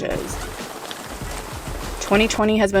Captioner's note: rain patting